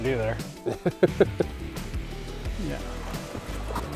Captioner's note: laughs